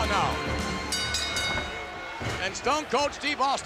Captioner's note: bell dinging